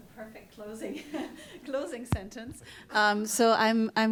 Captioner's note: chuckles